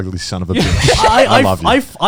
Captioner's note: chuckling